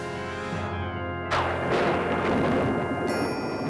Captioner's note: thunder rumbles